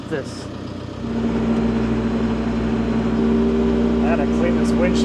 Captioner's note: machinery rumbling